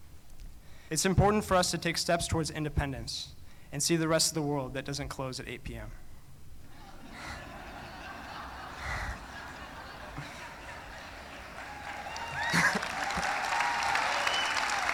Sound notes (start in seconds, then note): 10.8 laughing